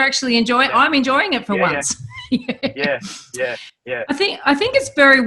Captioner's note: laughs